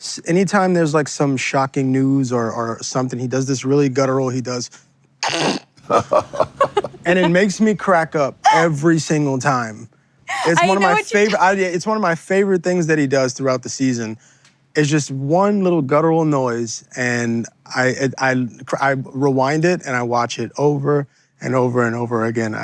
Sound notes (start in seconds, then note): 5.2 guttural noise